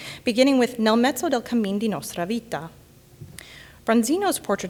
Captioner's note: speaking in Italian